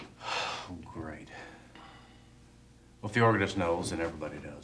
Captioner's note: sighs